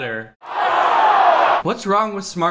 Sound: crowd screams

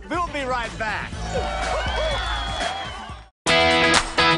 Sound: cheers and applause

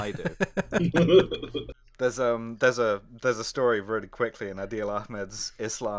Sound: laughter

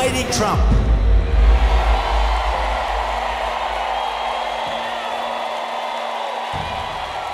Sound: applause

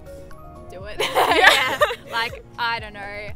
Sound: laughing

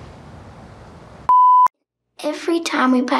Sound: beep

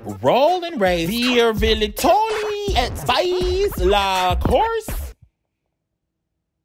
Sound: speaking in foreign language

